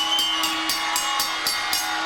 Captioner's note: bell ringing